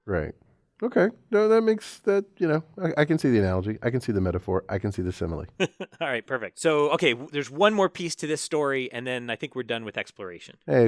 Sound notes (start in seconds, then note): 5.6 laugh